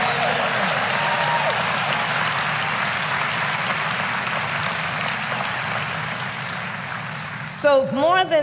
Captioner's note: applause